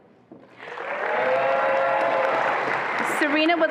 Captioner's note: attendees applauding and cheering